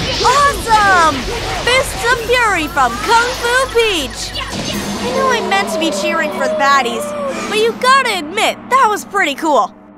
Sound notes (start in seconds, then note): 4.9 agonizing scream